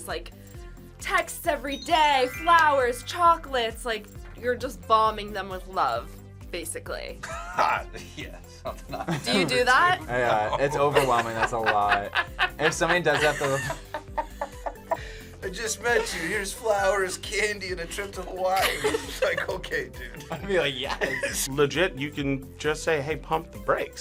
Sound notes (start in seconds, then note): 8.7 laughs; 14.4 laughs